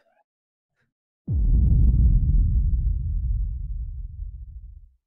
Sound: boom

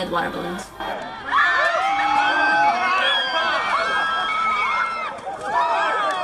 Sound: screaming

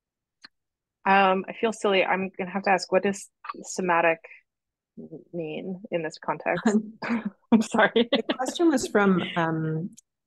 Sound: laughs

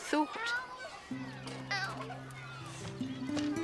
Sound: childish Voice

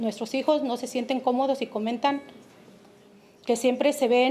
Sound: speaking Spanish

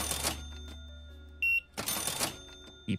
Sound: beeping

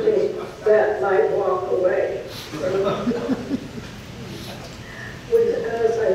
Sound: audience laughs

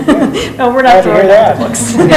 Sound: laughs

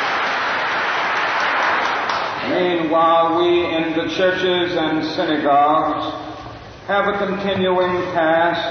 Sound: applause

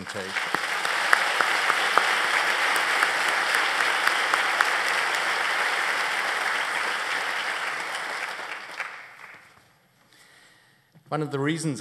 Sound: applause

